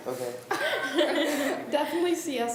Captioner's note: laughs